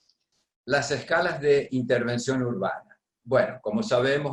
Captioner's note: speaking spanish